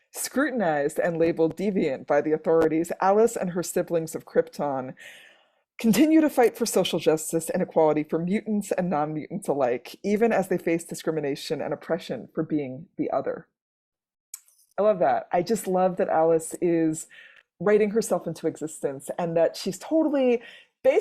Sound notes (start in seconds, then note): none